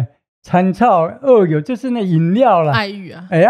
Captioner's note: Taiwanese